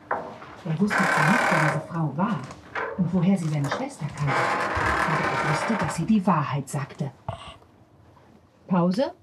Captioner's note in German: Stimmengemurmel